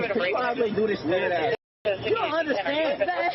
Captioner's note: radio chatter